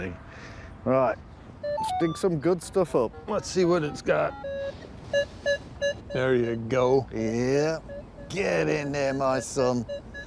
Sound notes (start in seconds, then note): 5.1 metal detector beeping